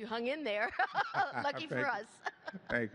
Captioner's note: laughs